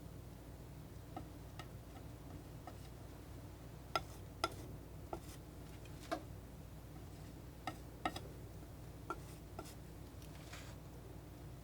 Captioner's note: tapping